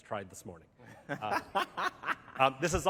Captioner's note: laughter